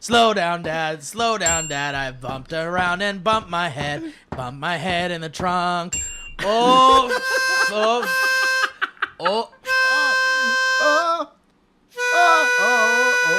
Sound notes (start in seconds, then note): 1.4 ding ding; 5.9 ding ding